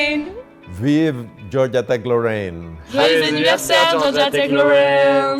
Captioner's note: speaking foreign language